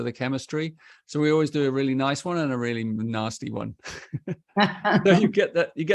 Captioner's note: laughter